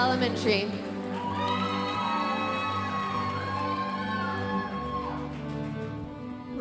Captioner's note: audience cheering and applauding